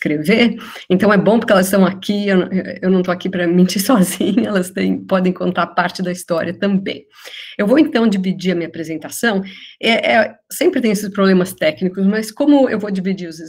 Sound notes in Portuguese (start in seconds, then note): 4.6 risos